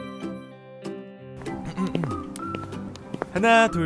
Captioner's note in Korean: 해설2의 헛기침